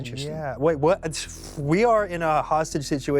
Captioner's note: pffft